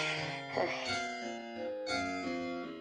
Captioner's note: sighs